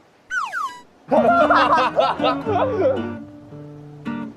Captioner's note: laughter erupts